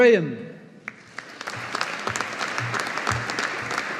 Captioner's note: audience applauding